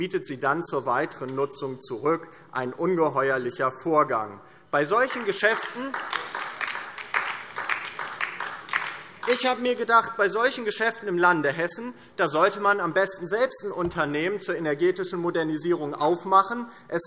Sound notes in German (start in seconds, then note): 4.9 Beifall DIE LINKE